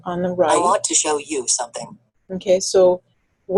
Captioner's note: voiceover